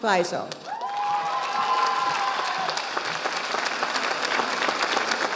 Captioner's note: audience applauding